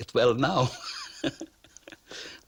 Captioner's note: laughs